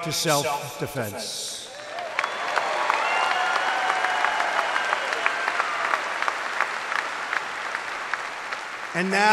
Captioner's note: applause